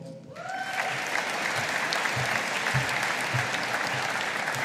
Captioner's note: audience applauding